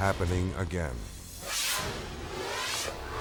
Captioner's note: video swooshing